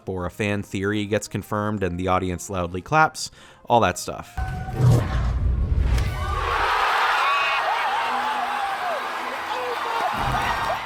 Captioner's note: loud audience reaction